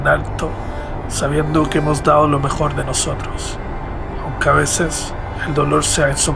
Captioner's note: narrator continues to speak Spanish